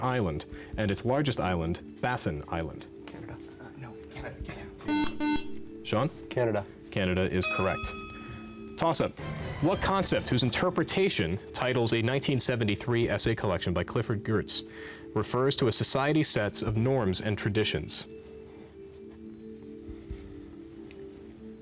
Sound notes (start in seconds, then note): 3.3 whispering; 4.8 beep; 17.2 ethereal music